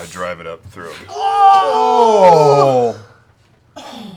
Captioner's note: shocked noises